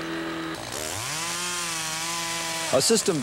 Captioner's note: chainsaw buzzing